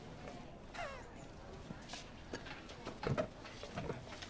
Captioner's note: Mason chuckling